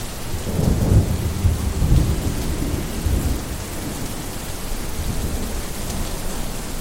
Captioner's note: rain splashes; muffled thunder claps